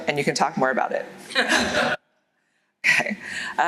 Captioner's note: laughter